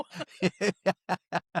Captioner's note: laughing